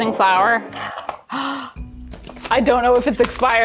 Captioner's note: gasping